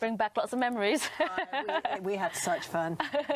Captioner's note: laughs